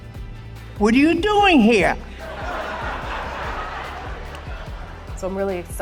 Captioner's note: laughter